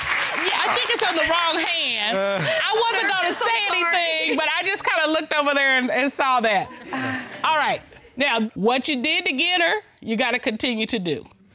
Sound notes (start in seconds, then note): 6.8 chuckles